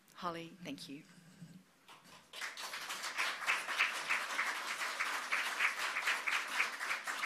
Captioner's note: applause